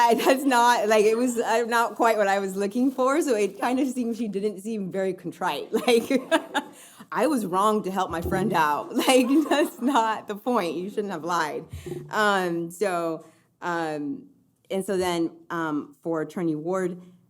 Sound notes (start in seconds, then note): 9.1 audience laughing